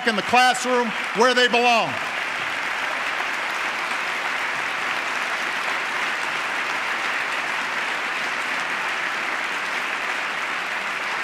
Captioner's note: applause